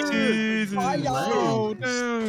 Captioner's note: in gay voice